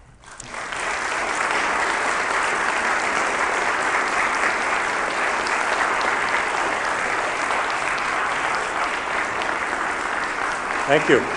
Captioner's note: applause